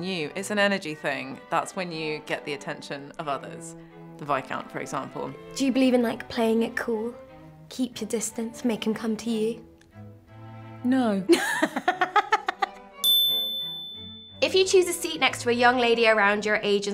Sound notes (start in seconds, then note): 11.3 laughing; 13.0 bell ringing